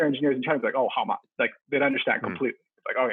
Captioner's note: speaks Mandarin